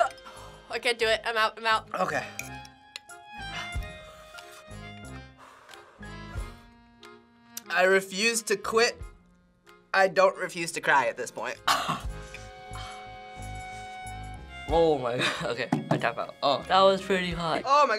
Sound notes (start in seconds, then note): 11.6 coughs